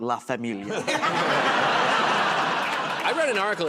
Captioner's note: laughter